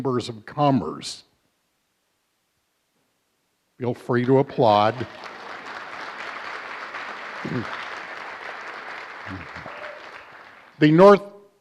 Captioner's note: applause